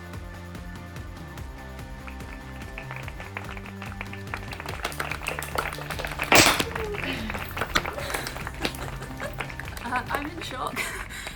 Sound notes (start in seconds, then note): 1.6 applause